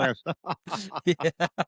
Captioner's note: laughs